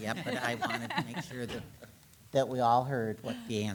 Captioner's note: attendees laughing